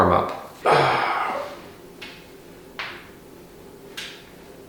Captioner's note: grunting